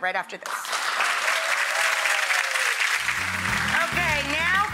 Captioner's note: audience clapping; peppy music